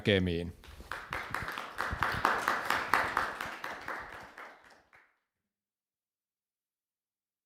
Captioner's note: applause